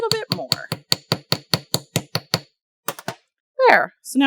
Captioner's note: light hammering